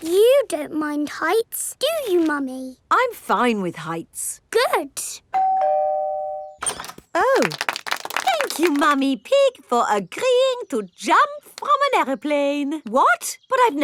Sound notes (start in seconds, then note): 5.3 doorbell ringing; 7.3 crowd applauding